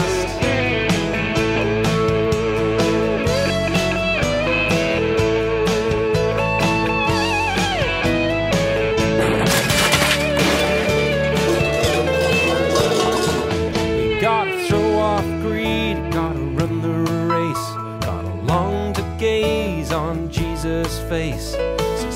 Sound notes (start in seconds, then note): 0.3 electric guitar playing; 9.2 bicycle crashing